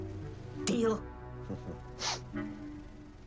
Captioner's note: chuckles